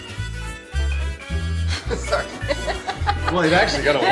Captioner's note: all laughing